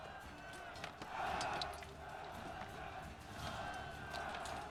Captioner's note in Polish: Aplauz